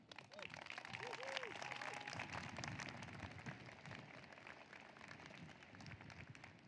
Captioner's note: applause